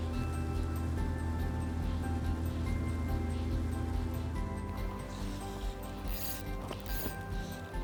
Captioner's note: soft cheerful music; boat engine humming; fishing line zipping